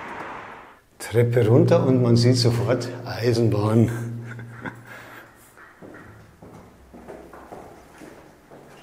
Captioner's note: laughs